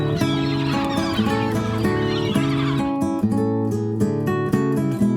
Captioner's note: seagulls squawking